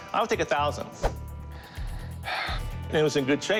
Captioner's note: sighs